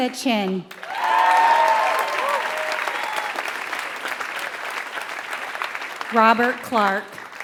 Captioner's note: applause